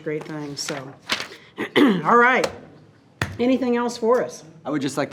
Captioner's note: clears throat